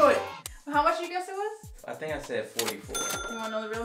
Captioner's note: ka-ching